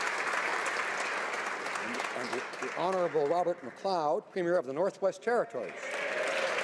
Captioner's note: applause